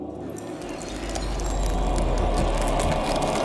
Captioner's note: ice crackles